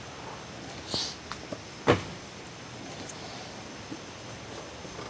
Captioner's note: mechanic sniffles